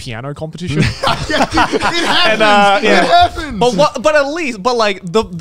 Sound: both laughing

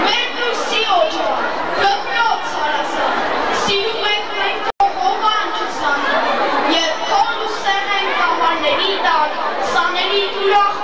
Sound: children reciting some poetry

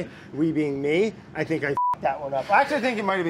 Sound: beeps

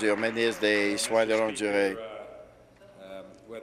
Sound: applause

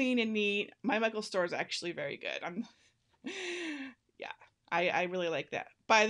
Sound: laughing

